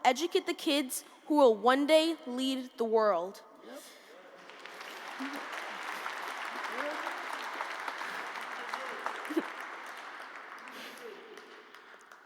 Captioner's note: applause